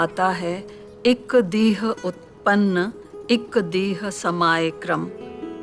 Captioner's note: speaking in Dingal